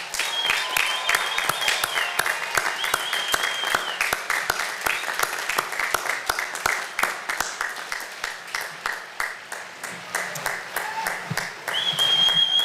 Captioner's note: applause